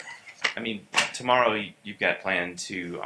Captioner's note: laughter